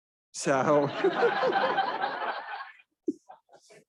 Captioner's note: all laughing